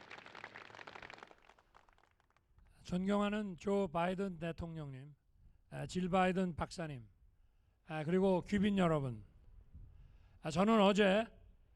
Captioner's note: applause